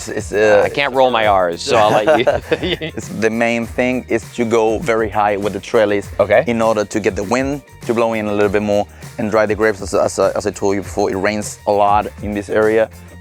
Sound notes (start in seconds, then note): 1.6 men laugh